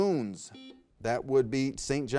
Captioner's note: buzzer beeps